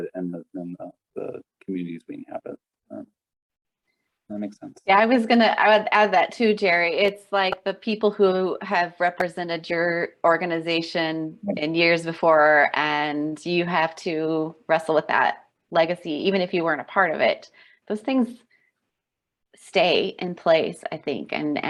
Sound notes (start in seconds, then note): none